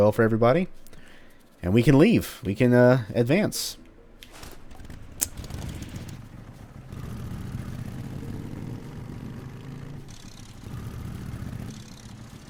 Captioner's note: motorcycle revving